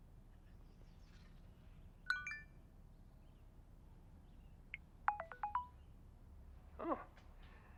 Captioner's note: phone Beeps